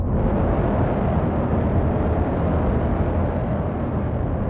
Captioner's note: engine roaring